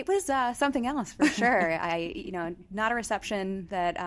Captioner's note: chuckles